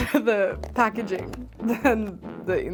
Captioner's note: laughs